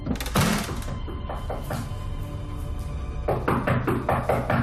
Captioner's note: knocking on door